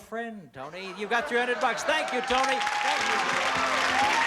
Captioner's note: cheers and applause